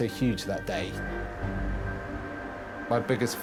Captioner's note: boat droning